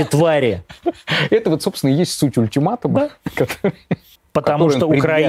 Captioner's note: laughs